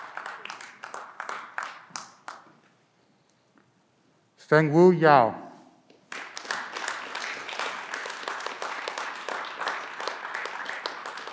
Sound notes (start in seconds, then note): 6.0 clapping